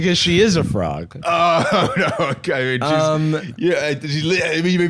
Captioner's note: laughing